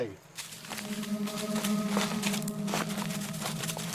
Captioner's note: leaves rustling